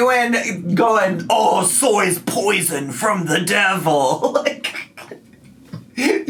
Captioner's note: laughs